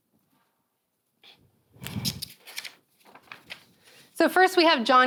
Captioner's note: paper rustling